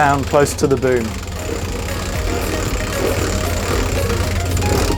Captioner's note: winch turning